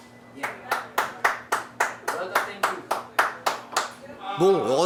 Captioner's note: clapping